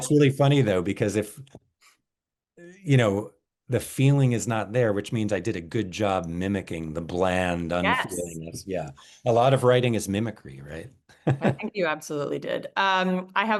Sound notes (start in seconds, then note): 11.2 laughs